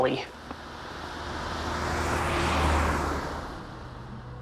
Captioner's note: car whooshing